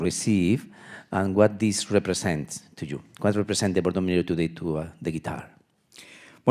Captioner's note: speaking in Spanish